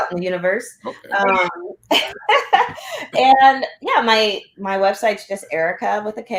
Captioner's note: laughter